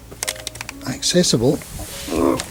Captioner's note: groans with effort!